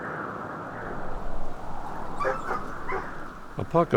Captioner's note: barking in the distance